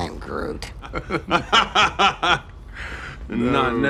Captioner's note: nervous Laughter